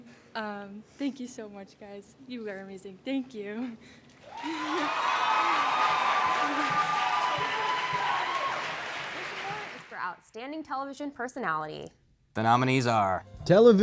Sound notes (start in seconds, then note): 4.2 applause